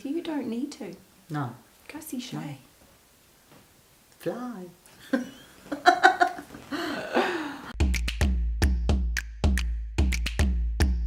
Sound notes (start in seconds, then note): 5.0 both laughing; 7.7 upbeat drum music